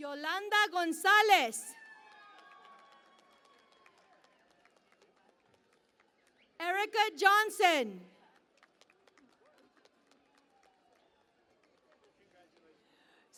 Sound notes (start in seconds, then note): 3.6 cheering and Applause; 9.6 cheering and Applause